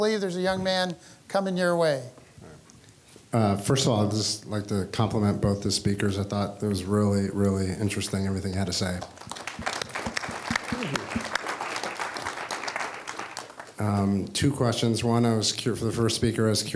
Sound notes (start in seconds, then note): 8.9 applause